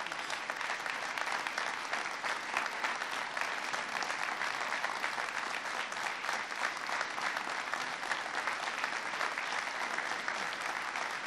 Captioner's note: applause